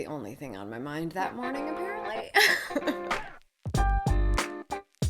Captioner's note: laughs